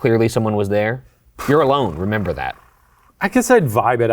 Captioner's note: blowing raspberries